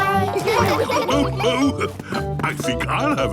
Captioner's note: laughs